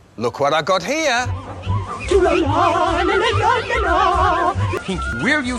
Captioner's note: Pinky humming in a weird manner